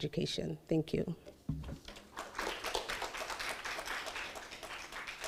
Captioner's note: audience applauding